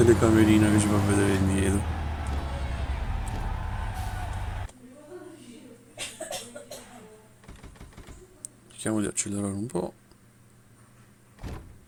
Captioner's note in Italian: Applauso